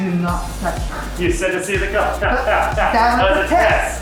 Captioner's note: hahahahaha